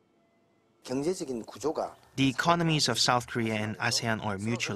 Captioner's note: Korean